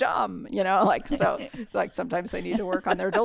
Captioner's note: laughter